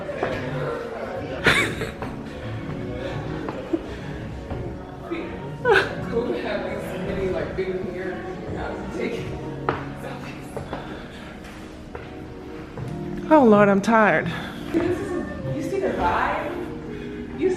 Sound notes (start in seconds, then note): 1.4 laughs